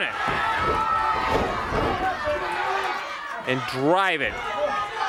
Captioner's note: crowd cheering